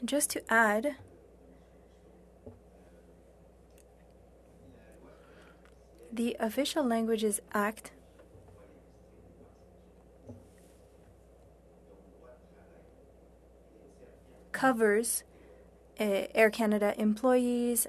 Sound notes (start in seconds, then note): 2.2 speaking French